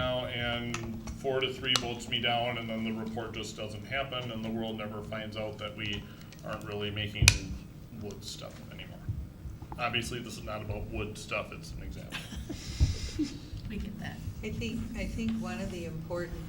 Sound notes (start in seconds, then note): 12.0 laughter